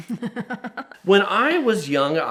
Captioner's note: laughs